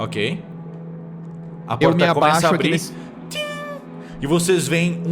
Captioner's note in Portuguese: som de elevador